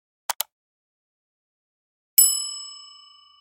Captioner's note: computer mouse clicks; desk bell rings